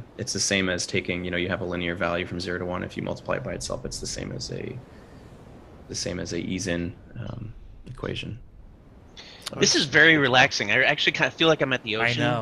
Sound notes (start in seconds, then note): none